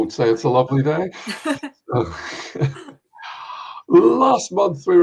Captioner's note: laughing